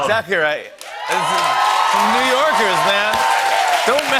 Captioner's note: cheers and applause